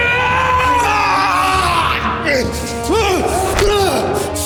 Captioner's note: Siegmund yelling; Brown groaning; hits thudding